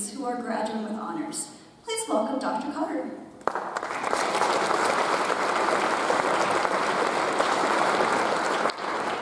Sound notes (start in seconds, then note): 3.4 audience applauds